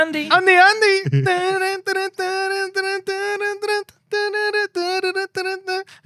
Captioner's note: humming